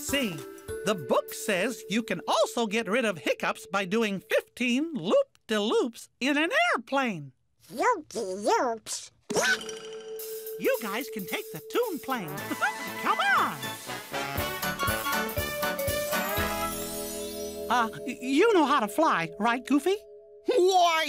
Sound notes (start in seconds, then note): 9.3 hiccups